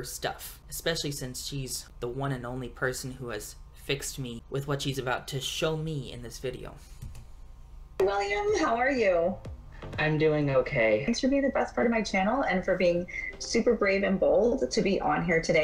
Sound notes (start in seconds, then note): none